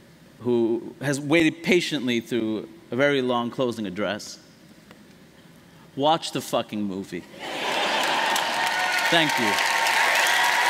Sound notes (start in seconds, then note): 7.6 laughter; 10.2 applause